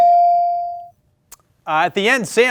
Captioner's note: bell ringing